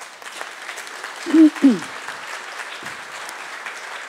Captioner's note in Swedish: Applause